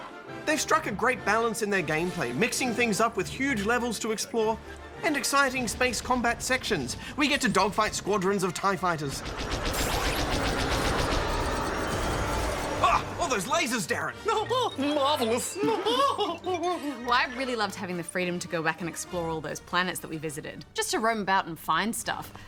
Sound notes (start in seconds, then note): 14.3 giggles